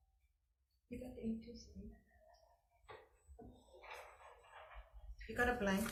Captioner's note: faintly speaking